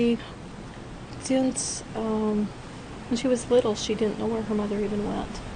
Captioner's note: voiceover